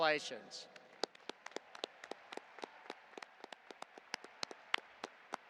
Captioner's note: audience applauding